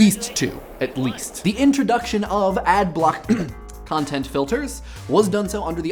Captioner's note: clears throat